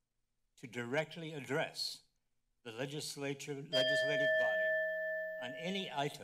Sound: timer bell rings

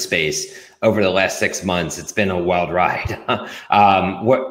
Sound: chuckles

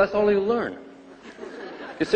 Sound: laughter and applause

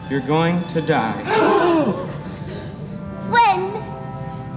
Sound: dancers gasping

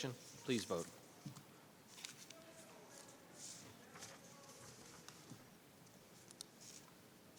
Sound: none

